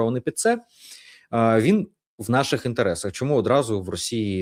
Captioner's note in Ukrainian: сопіння